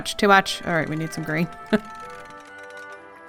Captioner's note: laughs